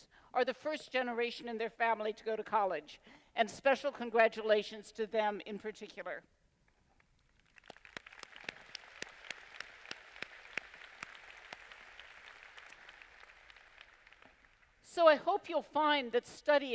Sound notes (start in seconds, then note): 7.2 applause